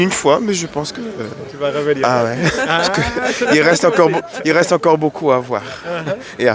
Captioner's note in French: rires